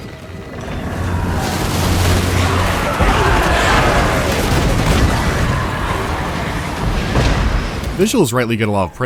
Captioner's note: sounds of hectic battle and sparce gunfire